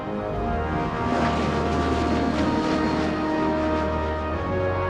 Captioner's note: airplane soaring